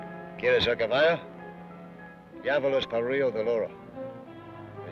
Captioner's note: Ben speaks foreign language